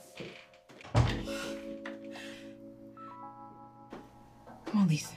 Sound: bathroom door closes

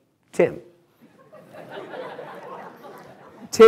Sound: laughter

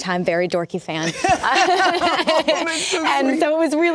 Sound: both laugh

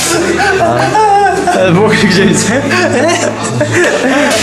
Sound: is cracking up

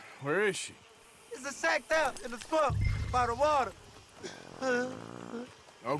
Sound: sobbing

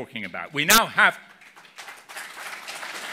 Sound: applause

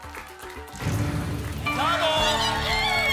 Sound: booms

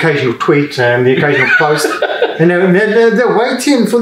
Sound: laughs

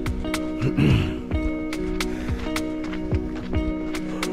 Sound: clearing throat

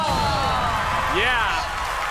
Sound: cheering

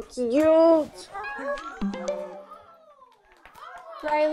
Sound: phone chimes

